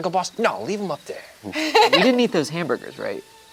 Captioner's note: laughs